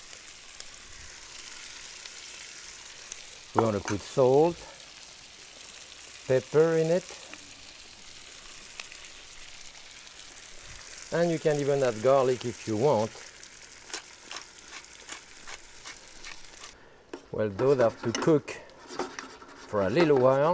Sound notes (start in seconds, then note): 13.9 pepper mill crunching